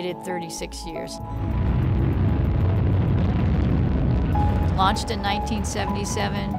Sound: sound of launch

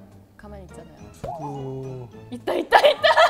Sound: Z-zing

